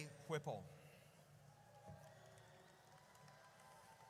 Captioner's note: audience cheers